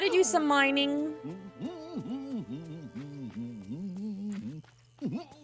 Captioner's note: goofy Humming